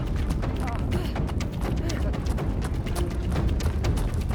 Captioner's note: group panting